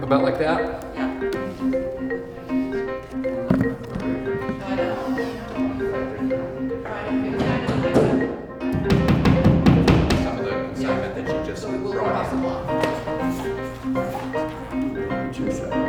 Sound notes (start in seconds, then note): 1.4 music with lively beat; 8.6 hammer pounding